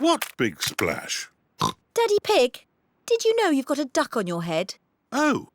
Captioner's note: oinks